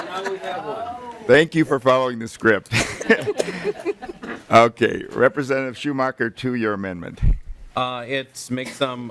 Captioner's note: laughing